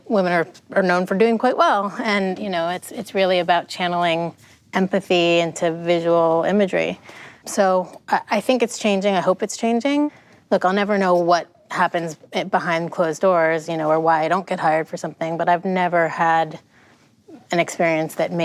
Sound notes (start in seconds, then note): none